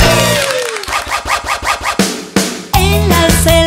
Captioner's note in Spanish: Aplausos; Sonido de disco rayado